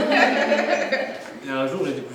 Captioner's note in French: rires